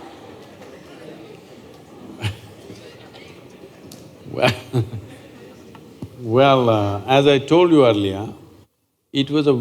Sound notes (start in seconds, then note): 2.1 laughter; 4.3 laughs